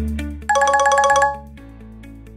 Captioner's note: phone ringing